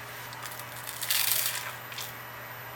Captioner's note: sizzle sizzle